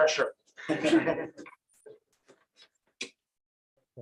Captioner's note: laughter